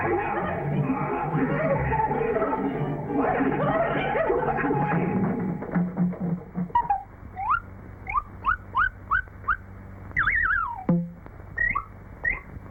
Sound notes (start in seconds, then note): 3.0 squawking